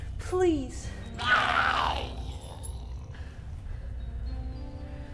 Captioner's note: Giree growls